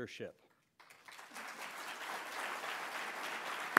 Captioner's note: applause